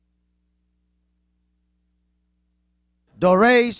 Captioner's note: none